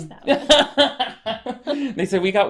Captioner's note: laughs